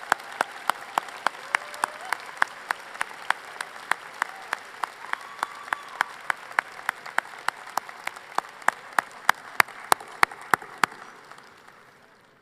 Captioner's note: applause